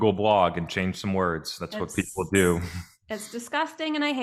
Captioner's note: chuckles